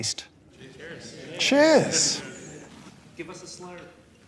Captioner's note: audience Cheers-ing